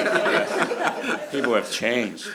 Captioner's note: laughs